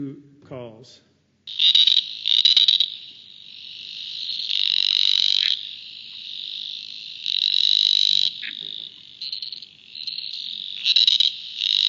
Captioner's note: sound of frog calls